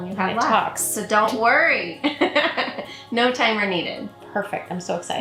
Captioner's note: laughs